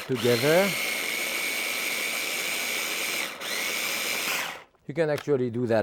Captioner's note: food processor whirring